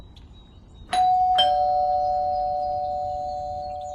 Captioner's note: bell sound